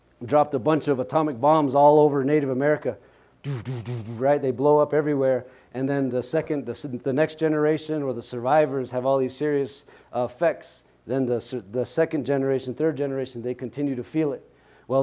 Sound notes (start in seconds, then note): 3.4 makes explosion sounds